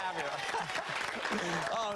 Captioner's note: applause